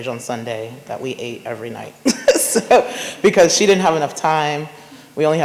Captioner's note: laughs